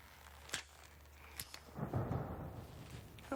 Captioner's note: lighter clicks; thunder rumbling